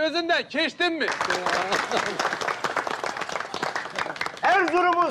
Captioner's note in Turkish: Alkış sesleri